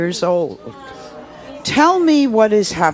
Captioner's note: audience murmuring